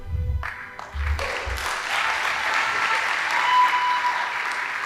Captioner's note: audience applauding